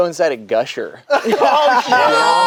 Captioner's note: group laughs